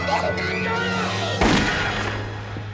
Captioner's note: gunshot